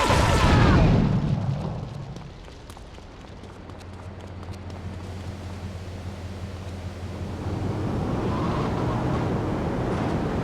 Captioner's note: gun firing; muffled yelling; somber music